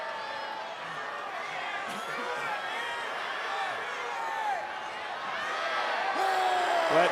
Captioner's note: applause